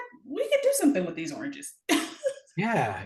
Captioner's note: chuckles